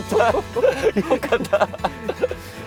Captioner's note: haha